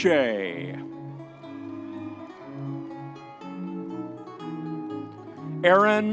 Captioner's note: audience members cheering